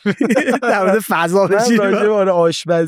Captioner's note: laughs